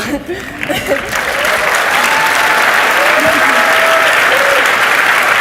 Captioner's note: audience cheers and applauds